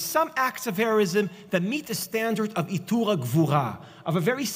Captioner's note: Hebrew